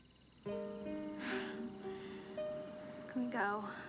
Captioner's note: chuckles